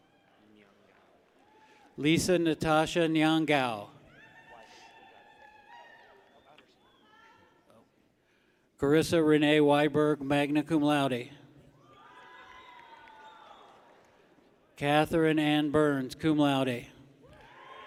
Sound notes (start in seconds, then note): 0.0 people clap; 4.0 people cheer; 11.8 people cheer; 17.2 people cheer